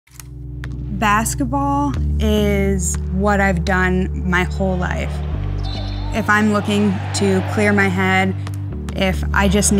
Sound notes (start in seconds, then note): 5.9 crowd cheering